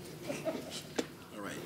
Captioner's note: speaking faintly; man laughing